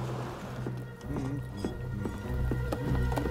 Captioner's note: sailor hums